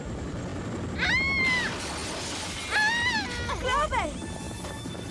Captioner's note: helicopter sounds; screams